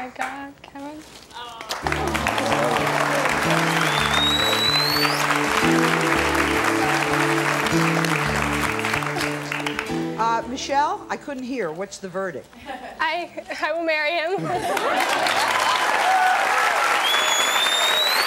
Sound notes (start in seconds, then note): 1.6 audience applauding; 14.6 audience applauding